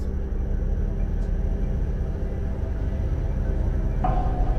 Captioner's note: wind howling